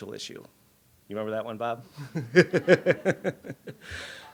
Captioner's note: laughs